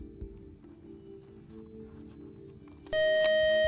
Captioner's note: buzzer